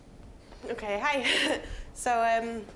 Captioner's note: with Scottish accent